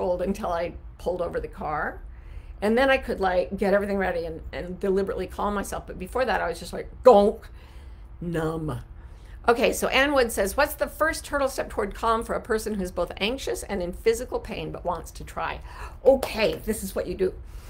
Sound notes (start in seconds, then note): 16.1 clapping